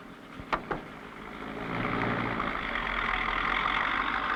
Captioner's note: engine rumbling